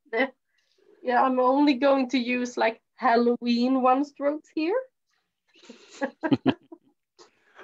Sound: chuckles

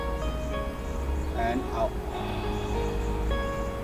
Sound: exhales

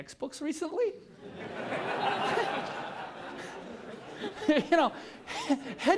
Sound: laughter

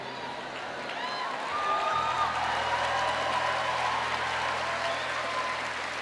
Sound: audience cheering and applauding

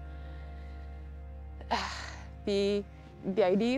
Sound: sighs

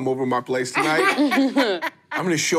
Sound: laughing

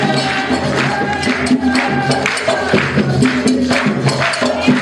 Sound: people clapping

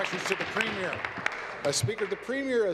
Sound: applause

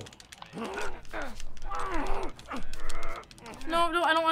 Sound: Joel grunting

